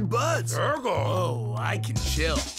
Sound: indistinct grunting

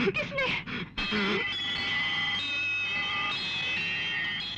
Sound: temple bell rings

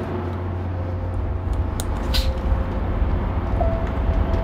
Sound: wind howls

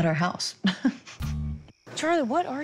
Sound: laughing

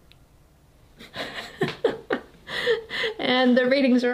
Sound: both laughing

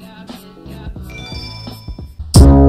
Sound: Emblem dings

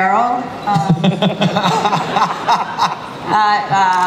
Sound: panel laughing

